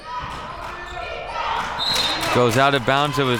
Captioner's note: whistle blows; claps